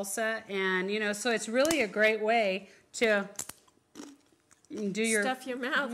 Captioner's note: crunch